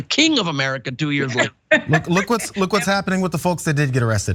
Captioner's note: laugh